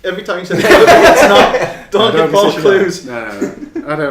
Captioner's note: laughing